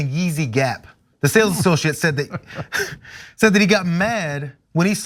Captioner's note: laugh